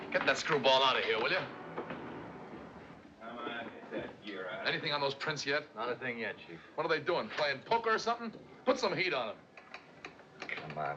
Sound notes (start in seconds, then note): none